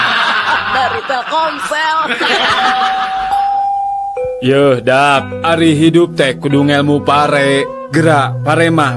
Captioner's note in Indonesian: tertawa